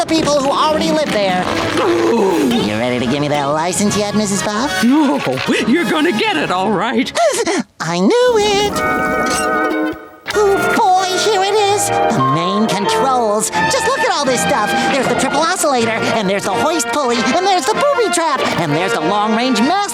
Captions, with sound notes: who already lived there. [growling] You ready to give me that license yet, Mrs. Puff? Oh, you're going to get it all right. [squealing] I knew it. Oh boy, here it is! The main controls! Just look at all this stuff! There's the triple oscillator, and there's the hoist pulley, and there's the booby trap, and there's the long range mast knob,